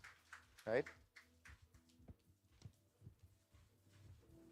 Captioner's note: applause